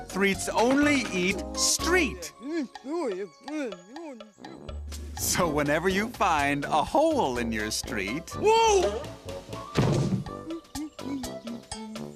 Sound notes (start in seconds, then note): 2.3 chattering contentedly; 9.5 humming; 9.6 thuds